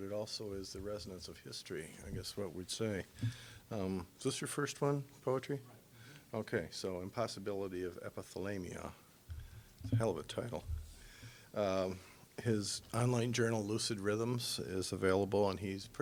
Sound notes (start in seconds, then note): none